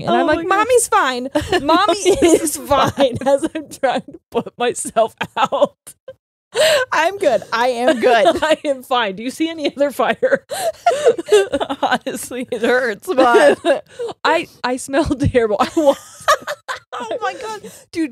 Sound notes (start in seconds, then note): 7.7 laughing; 15.8 laughs